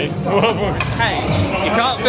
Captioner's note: chortles